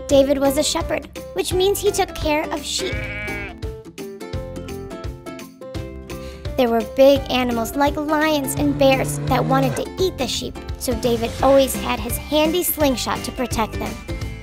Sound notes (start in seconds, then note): 2.7 sheep baaing; 2.7 upbeat music